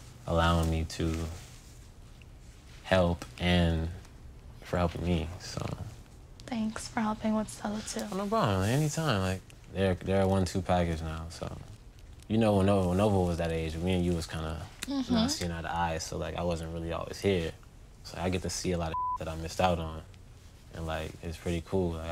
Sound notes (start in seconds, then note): 18.9 beep